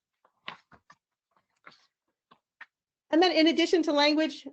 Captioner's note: paper rustles